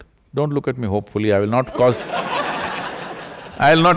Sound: laughter

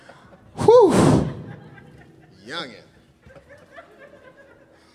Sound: chuckling

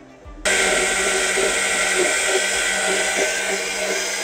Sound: blender sounds

